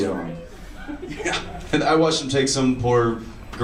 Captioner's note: laughs